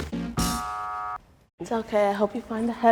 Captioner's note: buzzer buzzing